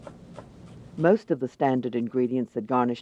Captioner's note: voiceover